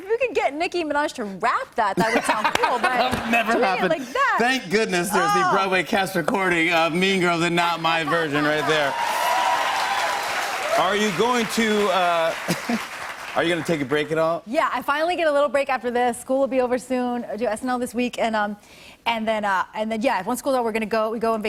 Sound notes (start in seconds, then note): 2.0 laughter; 8.4 cheers and applause